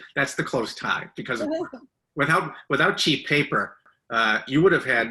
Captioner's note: laughs